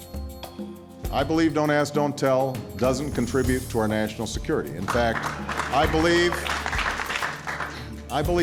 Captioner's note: applause